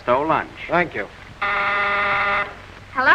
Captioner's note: buzzer